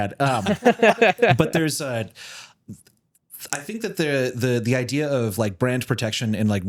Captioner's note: laughing